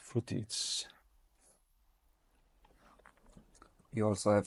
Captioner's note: smacks lips